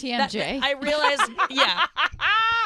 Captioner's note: laughing